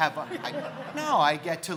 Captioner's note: crowd laughing